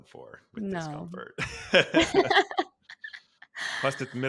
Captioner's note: laughing